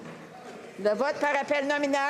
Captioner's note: speaking French